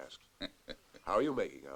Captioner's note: chuckles